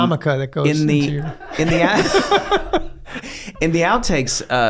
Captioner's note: all laughing